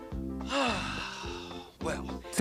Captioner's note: sighs